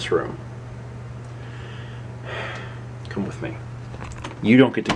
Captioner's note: deep sigh